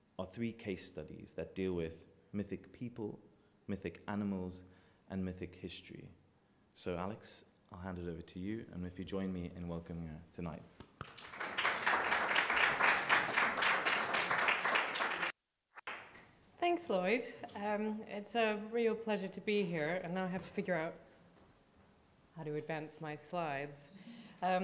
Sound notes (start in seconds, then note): 11.0 audience applauding